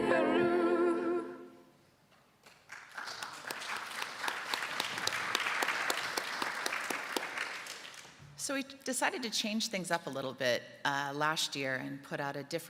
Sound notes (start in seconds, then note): 2.4 applause